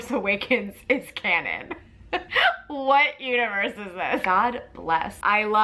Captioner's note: laughs